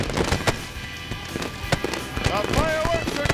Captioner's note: fireworks cracking